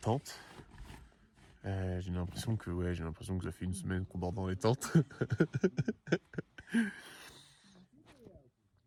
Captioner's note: laughs